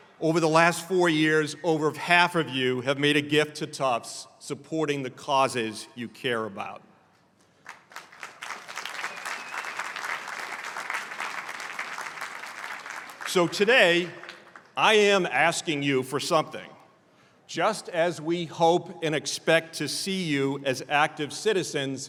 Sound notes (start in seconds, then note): 7.5 applause